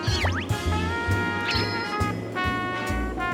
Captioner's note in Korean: 펄럭